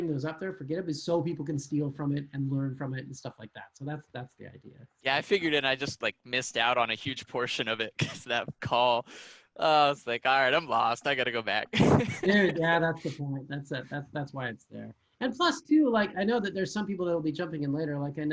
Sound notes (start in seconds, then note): 9.8 laughing